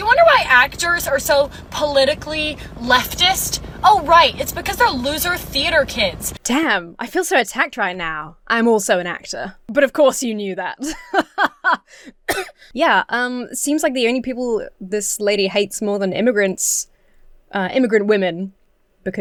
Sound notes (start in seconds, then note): 10.8 laughs haughtily; 12.2 coughs